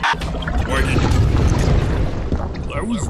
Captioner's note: lava drains out